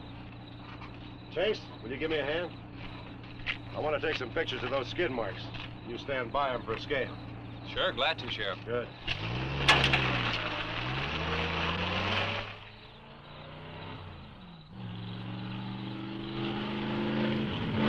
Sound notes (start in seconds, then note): 9.4 truck engine rumbling; 13.5 engine revving